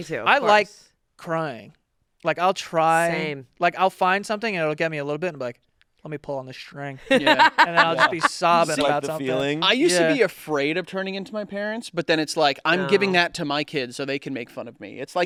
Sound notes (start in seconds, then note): 7.1 laughing